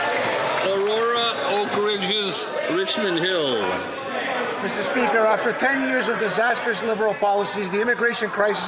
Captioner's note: some Applause